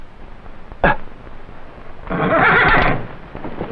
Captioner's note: groans; horse whinnying